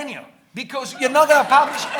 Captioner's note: audience laughing